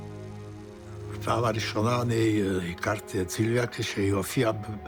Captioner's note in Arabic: الصوت المنطوق باللغة الأجنبية